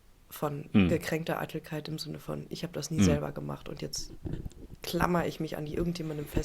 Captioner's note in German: räuspern